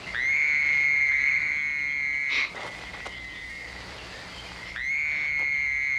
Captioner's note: someone screaming continues